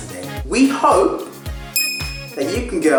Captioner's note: ding sound effect